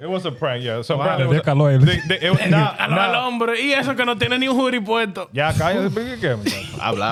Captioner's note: speaking In Foreign Language